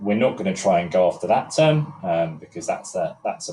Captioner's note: none